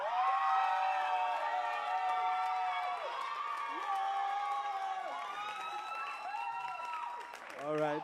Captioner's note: cheers and applause